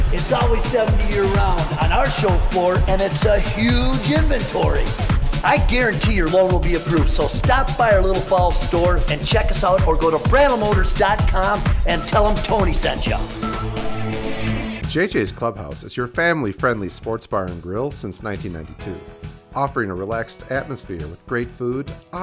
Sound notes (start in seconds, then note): 14.9 voiceover